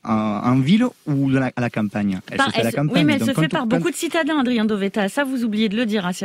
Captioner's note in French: Voix journaliste